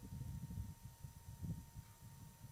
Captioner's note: none